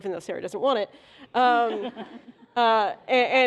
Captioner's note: laughter